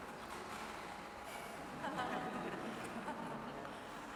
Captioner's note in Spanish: Risas